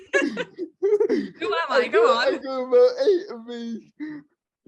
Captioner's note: laughing